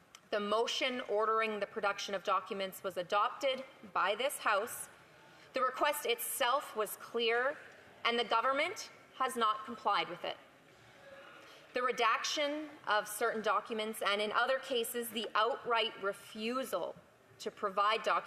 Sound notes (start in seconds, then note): none